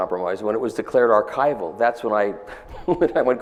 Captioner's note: laughs